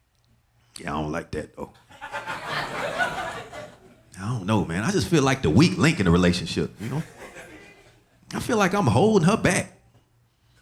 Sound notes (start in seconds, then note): 1.9 audience laughing